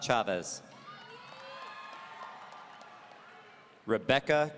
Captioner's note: audience cheering